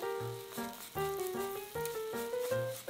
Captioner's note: spreading sound